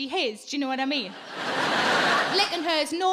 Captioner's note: audience laughing